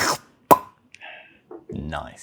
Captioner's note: pop